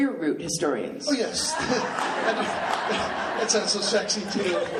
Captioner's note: laughing; laughs